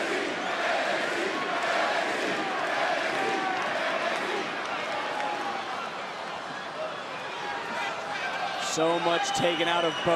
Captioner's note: crowd chanting